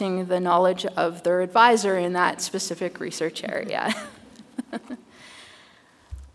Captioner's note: chuckles